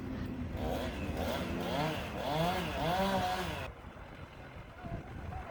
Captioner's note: chain saw noise